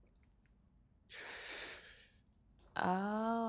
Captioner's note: Jeremy inhales shakily